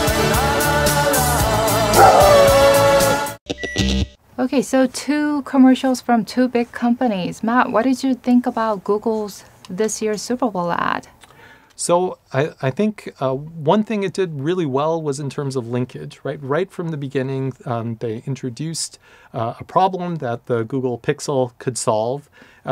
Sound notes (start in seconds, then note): 1.9 dog howls; 3.5 electronic squelch